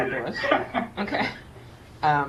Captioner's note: laughs